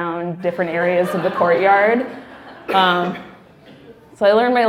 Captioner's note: laughing